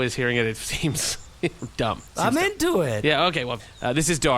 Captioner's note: laughs